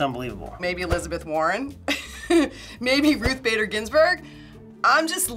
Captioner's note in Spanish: Risas